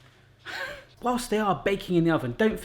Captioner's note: laughing